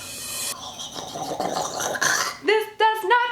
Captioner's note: gurgling